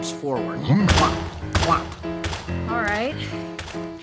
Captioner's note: footsteps thudding